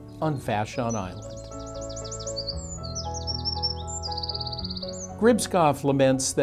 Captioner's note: birds chirping; gentle music